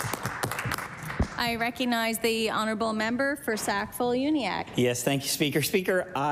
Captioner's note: applause